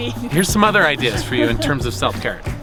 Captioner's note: laughs